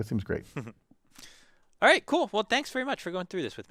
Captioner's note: laugh